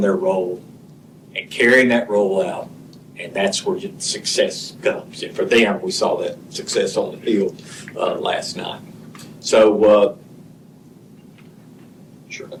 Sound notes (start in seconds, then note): none